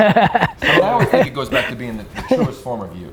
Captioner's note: speakers laugh